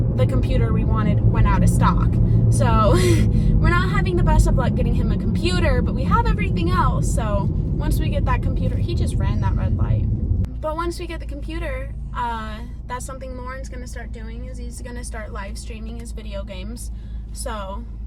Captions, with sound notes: the computer we wanted went out of stock. So... (laughs) We're not having the best of luck getting him a computer, but we have everything else, so, once we get that computer, he just ran that red light. But once we get the computer, that's something Loren's gonna start doing is he's gonna start livestreaming his video games. So,